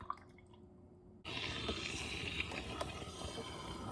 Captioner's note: coffee burbling sounds